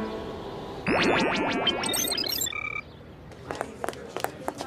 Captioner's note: helicopter flying